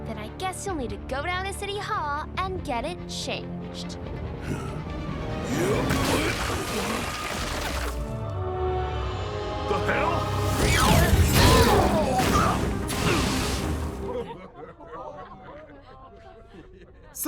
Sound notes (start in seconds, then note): 4.1 dramatic music; 5.4 Kill Cannon grunts; 12.2 Eve thuds; 14.6 heroes chattering